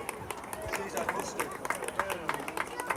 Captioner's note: applause